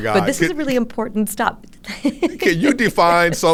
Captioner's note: laughs